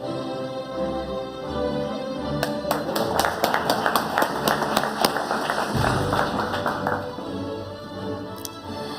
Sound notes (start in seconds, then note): 2.4 audience applauding